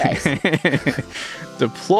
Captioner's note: laughs